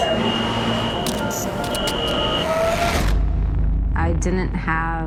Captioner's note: static buzzing